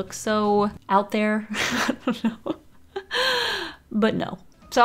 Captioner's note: laughs